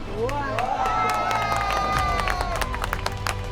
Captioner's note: crowd cheering